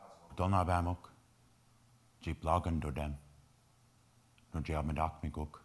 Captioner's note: speaking in foreign language